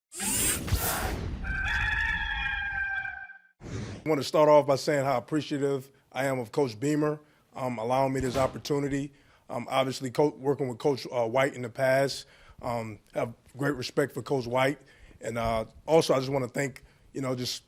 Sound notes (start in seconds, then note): 0.2 whooshing sound; 1.4 cock crowing